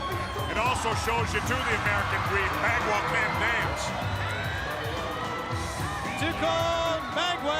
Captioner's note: crowd cheering